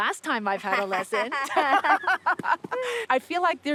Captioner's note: both laugh